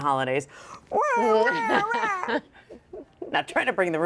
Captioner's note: imitates crying; chuckles